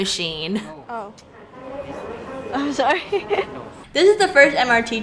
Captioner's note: panicking noises